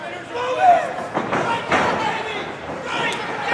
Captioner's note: thuds; crowd cheering; man shouting loudly